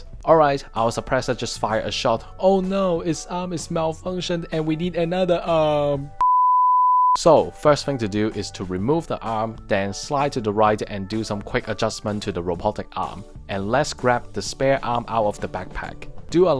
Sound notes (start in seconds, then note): 6.2 beep